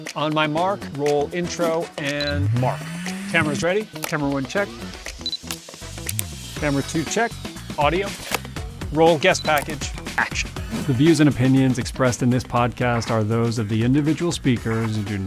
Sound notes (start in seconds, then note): 6.0 device camera beeps